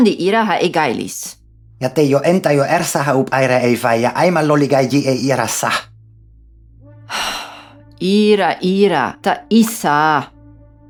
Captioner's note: sigh